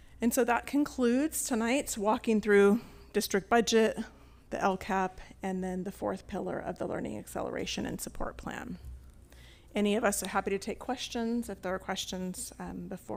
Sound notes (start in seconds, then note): none